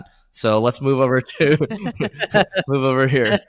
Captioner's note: laughing